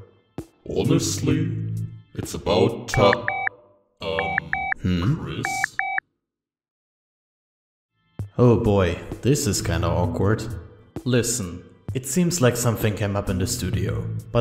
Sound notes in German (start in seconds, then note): 4.1 beep beep